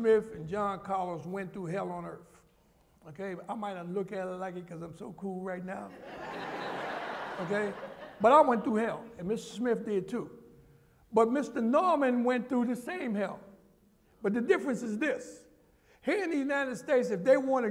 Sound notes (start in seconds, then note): 5.9 laughter